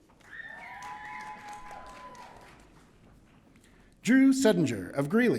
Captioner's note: audience cheering